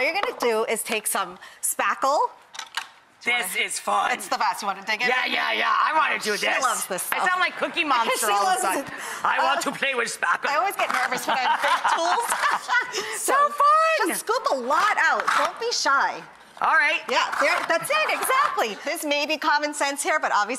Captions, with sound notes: All you're gonna do is take some spackle- This is fun. It's the best. You wanna dig in? Yeah, yeah, yeah, I want to do this. She loves this stuff. I sound like Cookie Monster all of a sudden. I want to play with spackle. (laughs) I always get nervous when I have paint tools. So fun. Just scoop a lot out. Don't be shy. Alright. Yeah, that's it. Exactly. This may be common sense here, but obviously